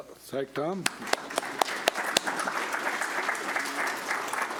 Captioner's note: audience clapping